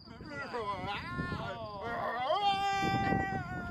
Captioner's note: men howling